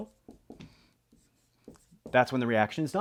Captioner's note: pen scratching